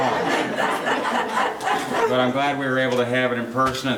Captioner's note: laughing